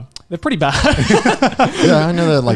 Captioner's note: laughing